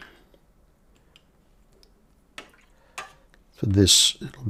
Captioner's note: silence